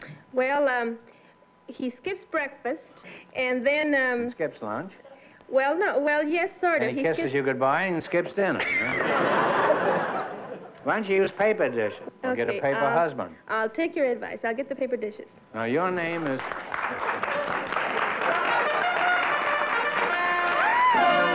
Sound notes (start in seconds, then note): 16.1 applause; 18.2 bugle